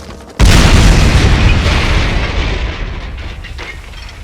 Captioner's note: explosion